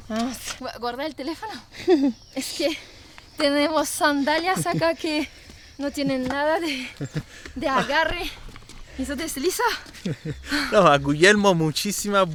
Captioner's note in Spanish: risas